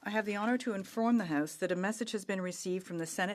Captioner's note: speaking French